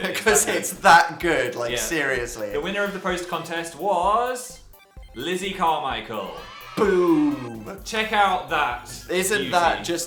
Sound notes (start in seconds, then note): 6.4 "Yay!" sound effect